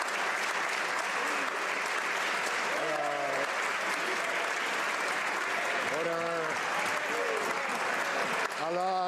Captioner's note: some Applause